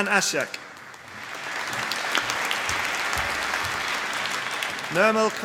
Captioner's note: applause